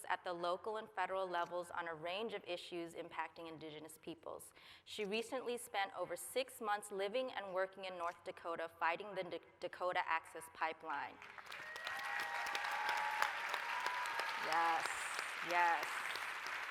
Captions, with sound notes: at the local and federal levels on a range of issues impacting Indigenous peoples. She recently spent over six months living and working in North Dakota fighting the Dakota Access Pipeline. [APPLAUSE, CHEERING] Yes. Yes.